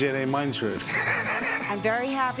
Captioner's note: laughs